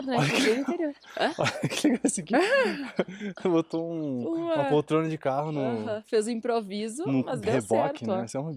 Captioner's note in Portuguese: risadas